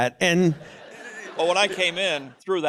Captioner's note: chuckling